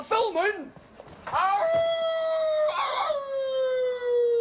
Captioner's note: howling